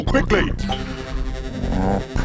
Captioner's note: scanner noises